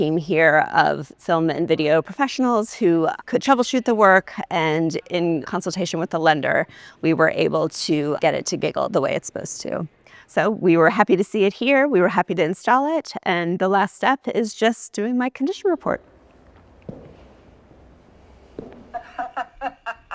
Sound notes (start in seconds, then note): 16.0 footsteps; 18.9 giggling